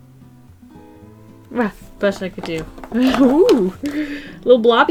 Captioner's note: laughs